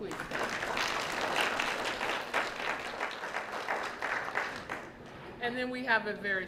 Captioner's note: applause